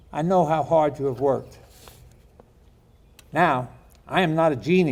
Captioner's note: none